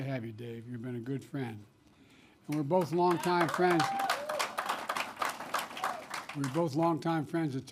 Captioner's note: applause